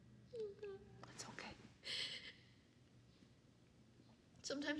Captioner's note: sobbing